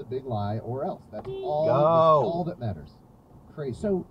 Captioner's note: beep